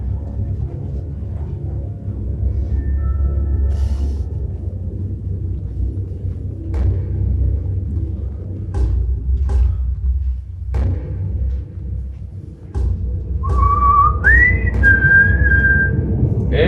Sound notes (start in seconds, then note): 3.8 gasps; 13.4 whistles